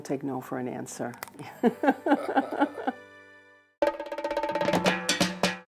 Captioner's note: laughing